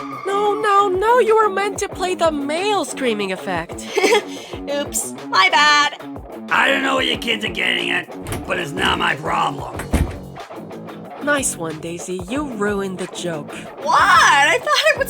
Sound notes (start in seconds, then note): 3.7 giggles; 9.6 slams door